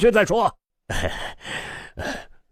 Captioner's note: sigh